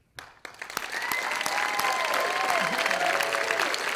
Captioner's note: audience applauding